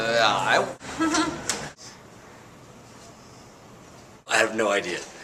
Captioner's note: laughs awkwardly